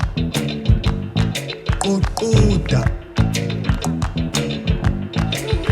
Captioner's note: speaking foreign language